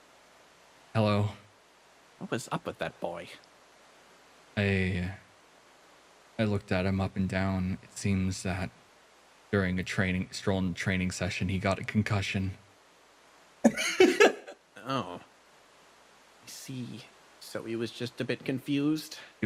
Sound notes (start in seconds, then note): 13.6 tiny Laugh